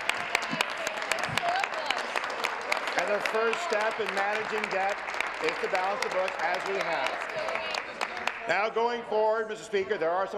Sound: applause

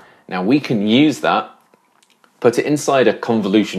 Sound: none

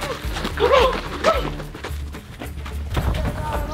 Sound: footsteps

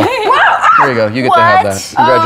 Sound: screams

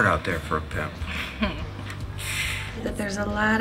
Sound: chuckling

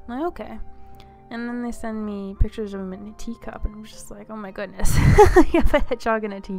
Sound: laugh

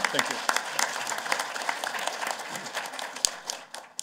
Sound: applause

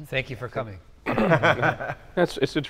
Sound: laughing

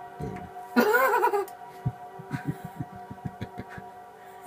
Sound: laughs

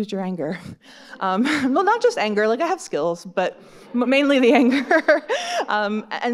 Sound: chuckles; laughs

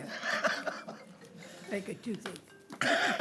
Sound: phone ringing

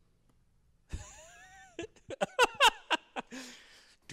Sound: laugh

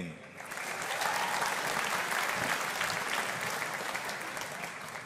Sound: audience applauding

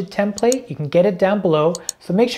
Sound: mouse clicking

